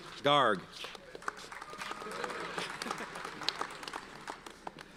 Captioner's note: audience applauds